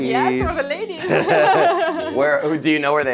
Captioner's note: laughing